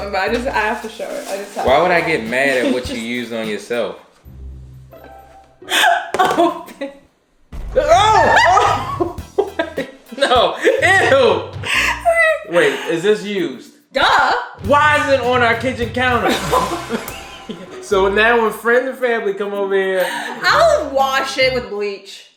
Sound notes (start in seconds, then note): 6.2 gasps; 8.0 groaning; 8.0 laughing; 16.2 laughing